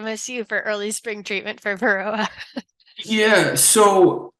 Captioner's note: laughs